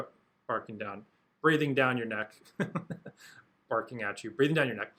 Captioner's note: chuckles